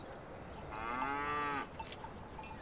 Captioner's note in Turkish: Hayvan Sesi